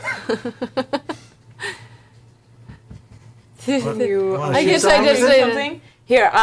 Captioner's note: laughs